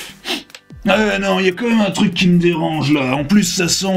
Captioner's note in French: renifle